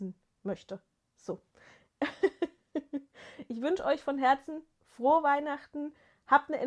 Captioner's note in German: gelächter